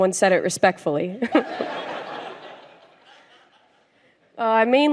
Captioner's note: laughter